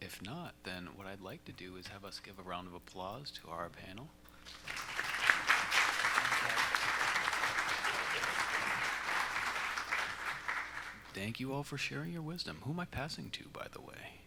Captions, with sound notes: If not, then what I'd like to do is have us give a round of applause to our panel. [ Applause ] Thank you all for sharing your wisdom. Who am I passing to, by the way?